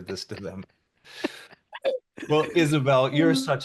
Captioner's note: laughing